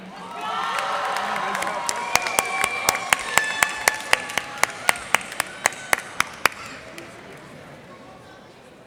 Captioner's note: cheers and applause